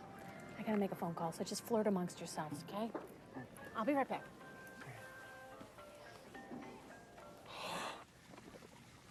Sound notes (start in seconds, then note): 5.5 sighs